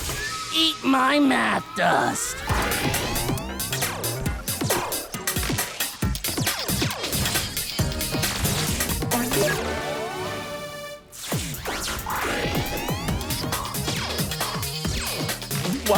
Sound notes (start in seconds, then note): 6.6 game beeps and blips